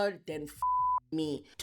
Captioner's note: beep